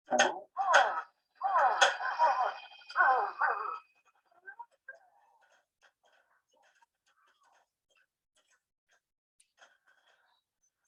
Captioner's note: pinball machine sounds